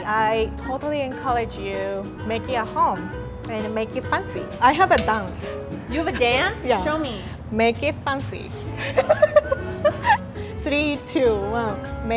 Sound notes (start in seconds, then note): 8.8 laughing